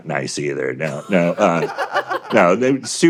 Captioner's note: laughter